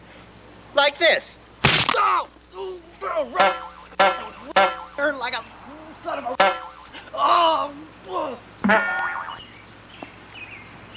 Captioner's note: shouts in pain